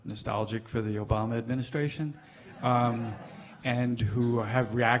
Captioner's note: laughing